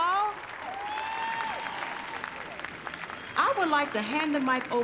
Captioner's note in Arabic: هتاف، تصفيق